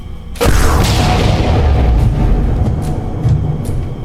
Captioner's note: gun firing